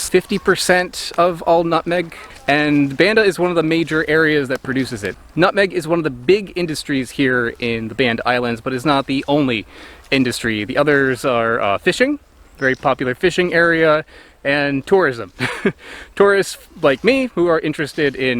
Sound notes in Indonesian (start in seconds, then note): 15.3 tertawa